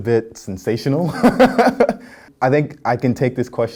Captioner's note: laughing